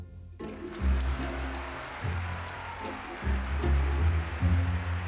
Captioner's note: audience clapping